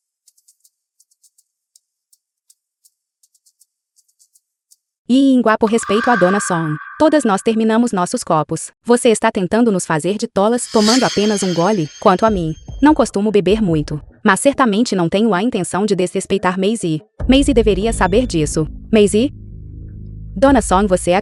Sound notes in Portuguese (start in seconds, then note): 5.7 grito